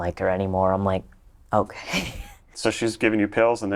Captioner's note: laughs